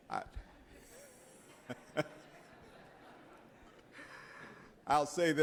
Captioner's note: members laughing